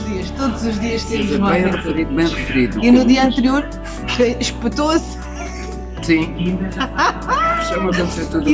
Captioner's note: laughs